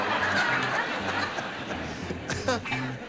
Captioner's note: laughter